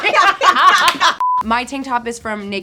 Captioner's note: group laughing